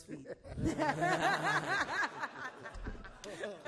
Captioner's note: all laugh